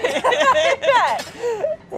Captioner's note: both laugh